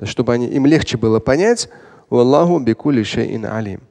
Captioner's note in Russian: говорит на арабском